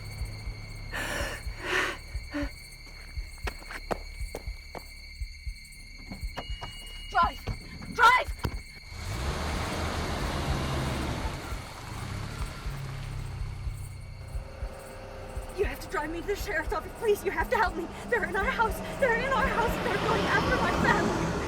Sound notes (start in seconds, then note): 2.3 Tina laughs; 3.7 tense electronic music; 8.9 car rumbling away